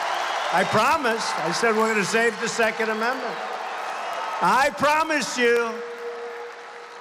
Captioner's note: applause